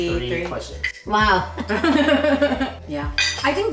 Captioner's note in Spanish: Risas